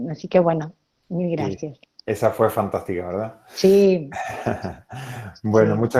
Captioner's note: laughs